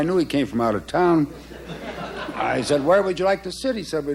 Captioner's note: laughter